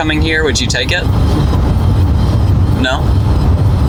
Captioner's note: chuckling